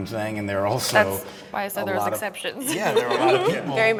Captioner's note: laughs